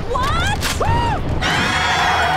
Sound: screaming

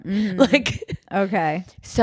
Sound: laughs

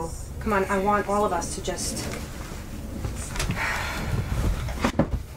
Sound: sighs

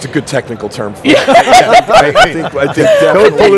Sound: laughs

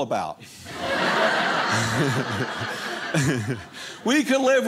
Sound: audience laughing

